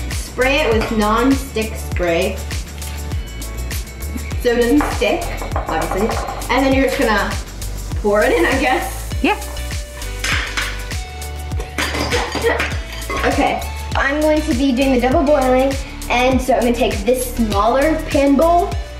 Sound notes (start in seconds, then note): 10.2 candy clatters inside pot; 12.0 chuckles